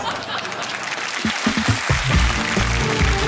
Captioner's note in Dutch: applaus